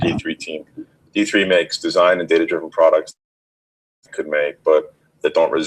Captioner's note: audio skips